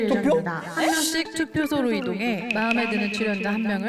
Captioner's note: confused sound effect